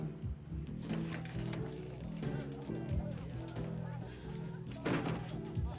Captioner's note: customers chattering